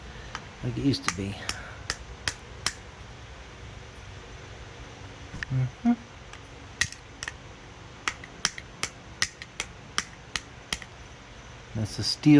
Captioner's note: tapping; humming